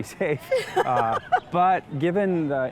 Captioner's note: laughs